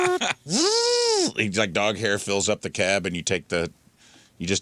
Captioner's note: laughing